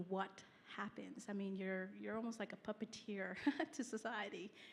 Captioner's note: laughs